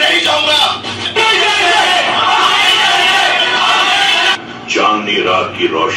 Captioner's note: war cries